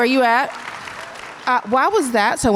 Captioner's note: audience applause